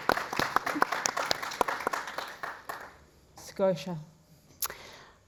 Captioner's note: applause